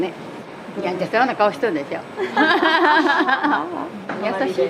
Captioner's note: laughs